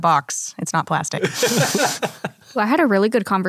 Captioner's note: laughs